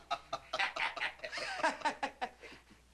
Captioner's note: laughing; laughs mockingly